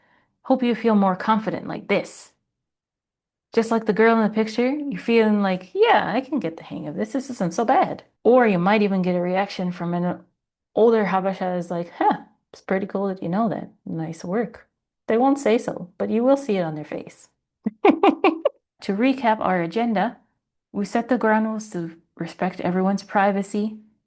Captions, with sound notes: hope you feel more confident like this. Just like the girl in the picture, you're feeling like, "Yeah, I can get the hang of this. This isn't so bad." Or you might even get a reaction from an older Habesha who's like, "Huh, it's pretty cool that you know that. Nice work." They won't say so, but you will see it on their face. *laughs* to recap our agenda, we set the ground rules to respect everyone's privacy.